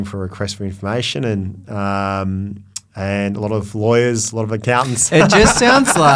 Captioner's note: laughs